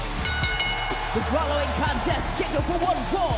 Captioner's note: bell rings